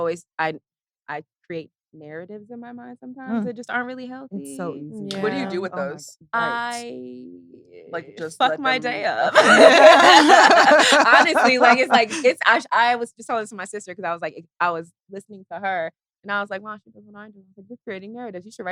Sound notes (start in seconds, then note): 9.6 laughs; 10.1 all laughing